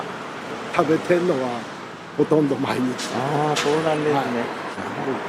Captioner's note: laughs